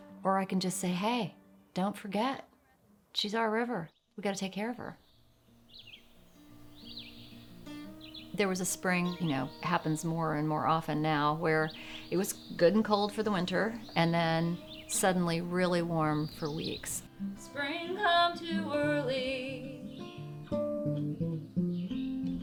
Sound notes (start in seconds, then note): 5.6 birds chirp